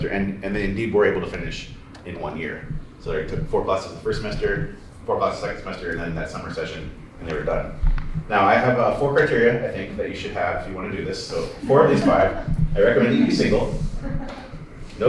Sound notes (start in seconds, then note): 11.8 laughter